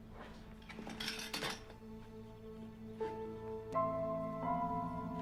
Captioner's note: materials clatter; suspenseful music